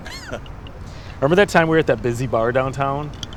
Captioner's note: participant laughs